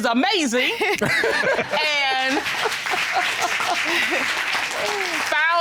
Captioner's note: audience applauds, laughs